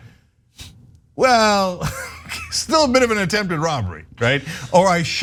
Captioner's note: laugh